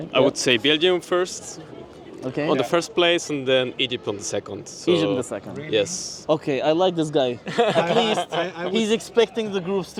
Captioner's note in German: gelächter